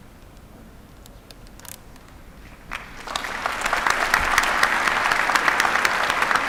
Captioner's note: applause